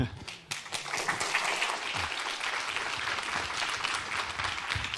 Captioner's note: applause